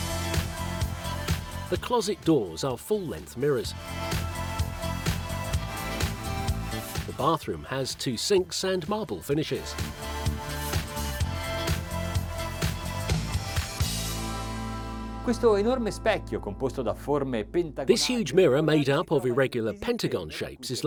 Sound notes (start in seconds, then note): 10.3 upbeat music; 15.3 speaking foreign language